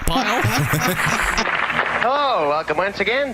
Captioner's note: laughter